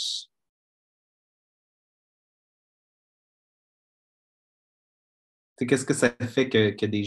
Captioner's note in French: silence